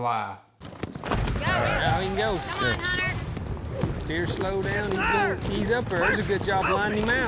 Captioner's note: all shouting